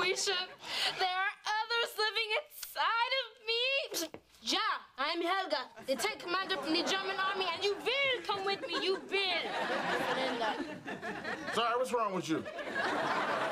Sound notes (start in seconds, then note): 3.6 German accent